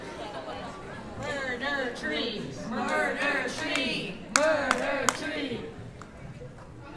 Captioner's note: chanting